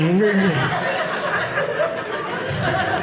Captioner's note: audience laughing